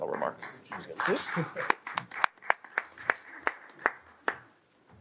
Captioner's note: audience applauds